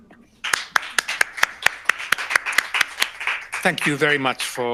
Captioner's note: audience applause